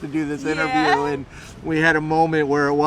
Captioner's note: laughing